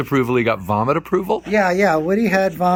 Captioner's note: laughing